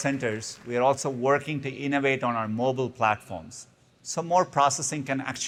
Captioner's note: applause